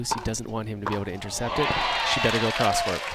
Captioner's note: crowd applauds